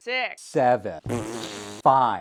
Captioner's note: fart